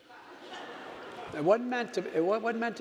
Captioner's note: audience laughing